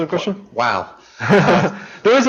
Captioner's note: laughs